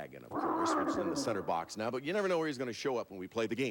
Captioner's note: dragon roars